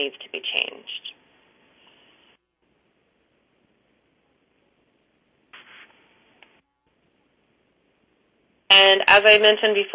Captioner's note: pause